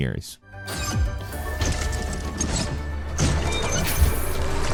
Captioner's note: robots beeping